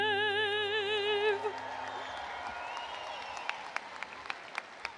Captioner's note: audience applauding